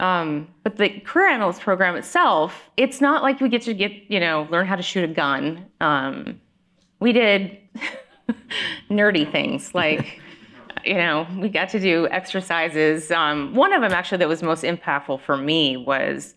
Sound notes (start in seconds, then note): 7.8 laughs